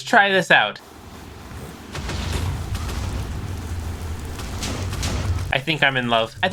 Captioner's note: flamethrower wooshing and explosions